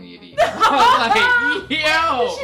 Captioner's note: laughter